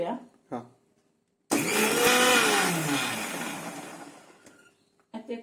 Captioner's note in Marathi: मिक्सरचा आवाज